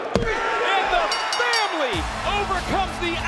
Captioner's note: bell rings